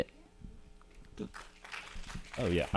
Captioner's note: audience applauding